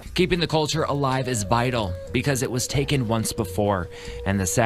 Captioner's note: foreign language